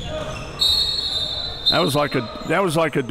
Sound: whistle

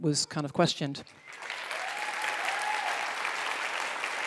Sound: applause

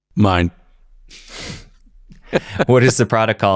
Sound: Dr. Steven Gundry giggles

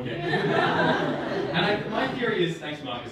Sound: audience laughing

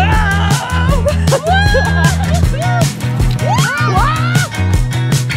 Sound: joyful screaming

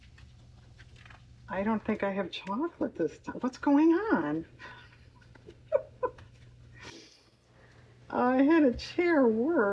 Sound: laughs

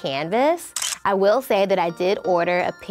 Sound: picture snap

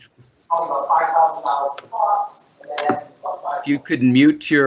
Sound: feedback

